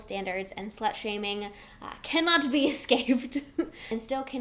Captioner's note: giggles